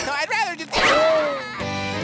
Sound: screaming

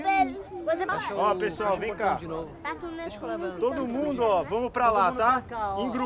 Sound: all speaking foreign language; speaking foreign language

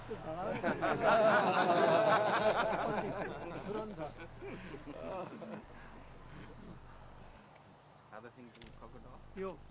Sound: great laughter, speaks inaudibly

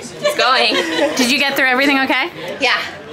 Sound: people laughing

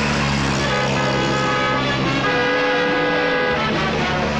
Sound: horn blares

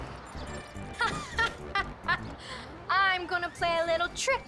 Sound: evil laughter

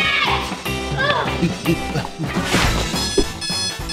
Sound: grunting; alarm clock

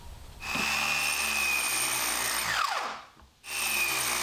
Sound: sharpener whirring

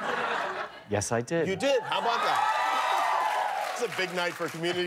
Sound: laughter

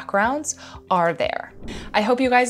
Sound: air whooshes

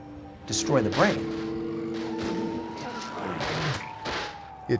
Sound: gunshots, grunting

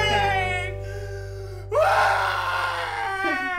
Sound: screams

